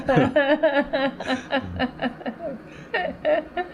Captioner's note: laughter